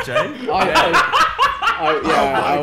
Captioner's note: laughing